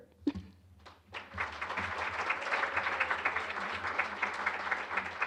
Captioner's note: applause